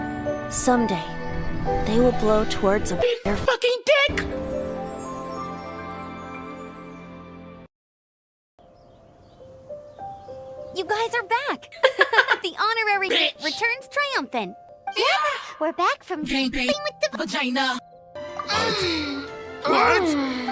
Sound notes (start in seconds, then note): 11.8 laugh